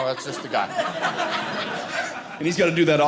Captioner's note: audience laughing